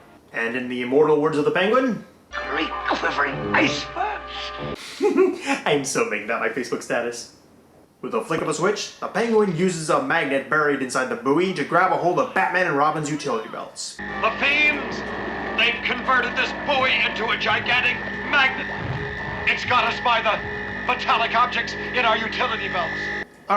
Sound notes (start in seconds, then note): 4.8 giggle